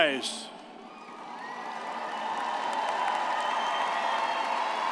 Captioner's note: audience cheers